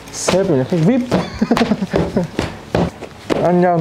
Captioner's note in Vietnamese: cười